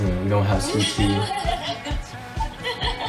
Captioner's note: laughter